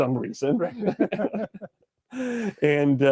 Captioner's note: everyone laughs